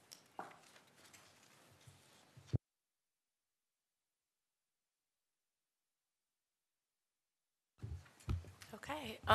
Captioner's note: silence